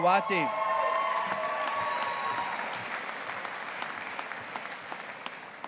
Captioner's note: audience applauding